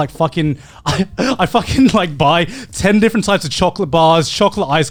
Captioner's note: laughs